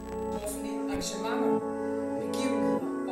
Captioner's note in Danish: Lyd fra tv